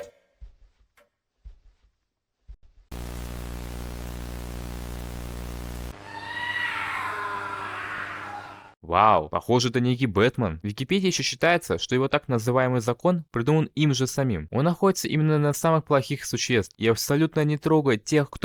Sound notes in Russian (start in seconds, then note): 2.2 крик